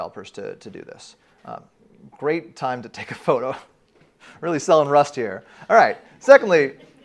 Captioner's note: uproarious laughter